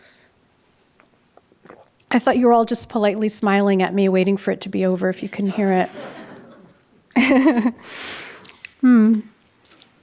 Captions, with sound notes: I thought you were all just politely smiling at me waiting for it to be over if you couldn't hear it. (audience laughing) (laughs)